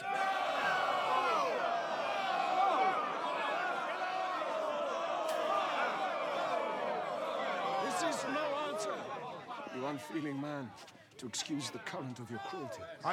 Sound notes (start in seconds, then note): 0.6 shouts; 2.2 crowd clamoring